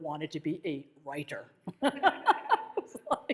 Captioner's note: laughs